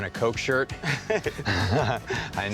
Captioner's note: laughs